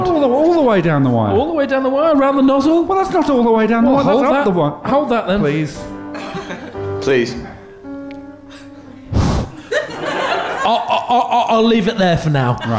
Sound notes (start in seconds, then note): 8.4 sighs